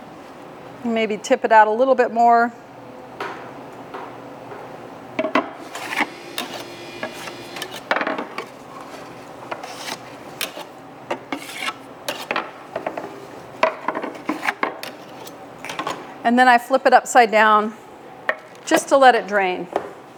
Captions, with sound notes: and maybe tip it out a little bit more. (tray clatters) (machine revving) (scraper scraping) (tray clatters) And then I flip it upside down just to let it drain.